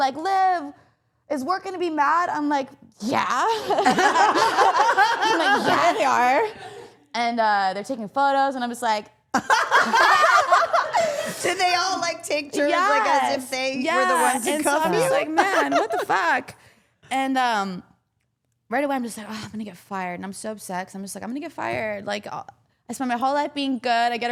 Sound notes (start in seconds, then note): 3.5 all laughing; 9.3 all laughing